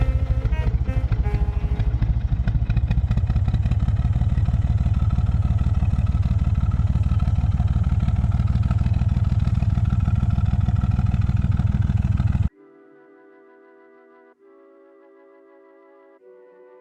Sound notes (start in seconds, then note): 3.0 narrowboat engine sound